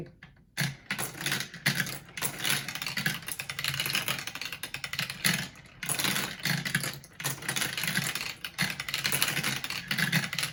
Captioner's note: multiple marbles rattle on tubes